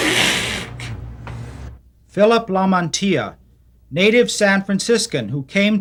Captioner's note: voiceover